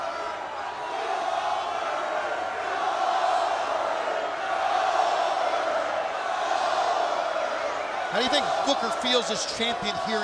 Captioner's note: crowd chatter